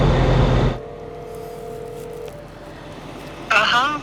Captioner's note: cellphone ringing